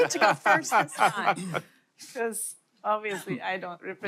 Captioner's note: laughter; laughing